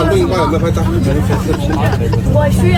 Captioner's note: laughter